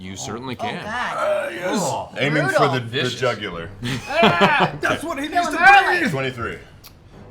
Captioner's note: growls